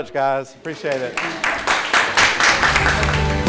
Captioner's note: applause; uplifting music